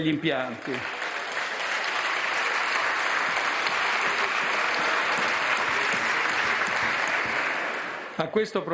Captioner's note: roar of applause